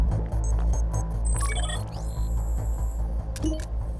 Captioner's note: selection tone; digital loading noises; beeps